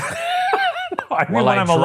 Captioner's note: laughing